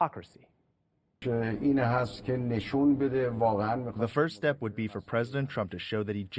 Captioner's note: through translator